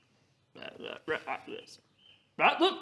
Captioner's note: guilty ribbits